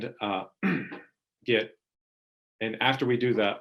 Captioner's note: clearing throat